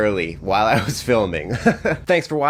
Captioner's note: laughing